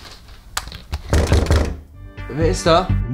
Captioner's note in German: Klopfen